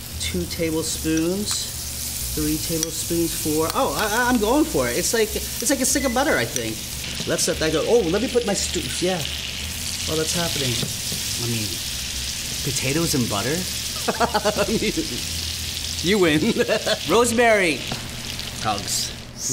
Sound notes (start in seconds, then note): 11.1 pan sizzling; 14.0 laughing